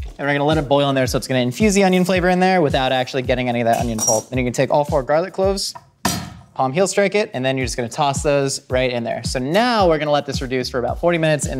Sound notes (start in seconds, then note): 6.0 banging on table top